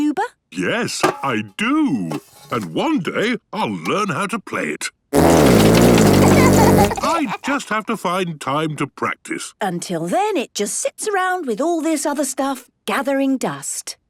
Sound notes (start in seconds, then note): 6.1 laughter